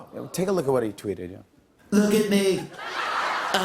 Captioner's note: laughter